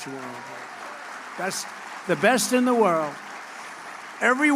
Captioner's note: applause